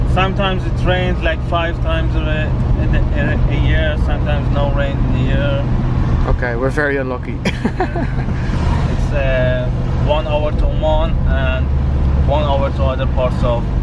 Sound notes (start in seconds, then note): 7.4 chuckles